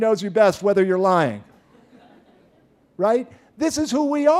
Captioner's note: laughter